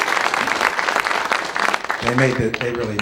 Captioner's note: applause